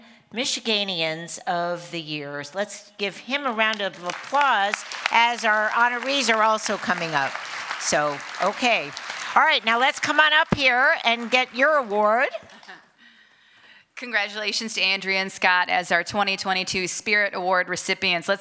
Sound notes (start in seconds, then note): 3.7 applause